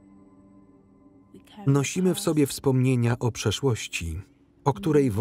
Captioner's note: baby crying